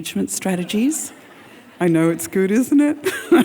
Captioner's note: audience laughing